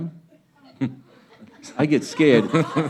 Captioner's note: laughing